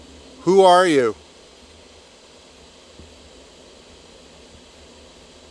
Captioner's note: static crackling